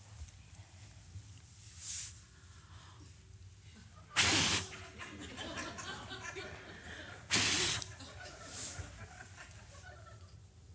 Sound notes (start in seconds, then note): 4.2 forceful blowing; 7.3 forceful blowing